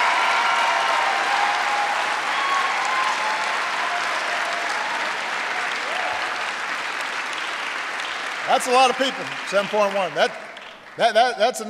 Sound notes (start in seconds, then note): 4.6 applause